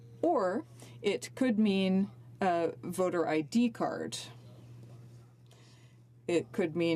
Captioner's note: speaking french